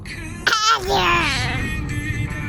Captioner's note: excited noises